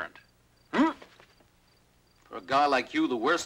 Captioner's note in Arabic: جو يتذمر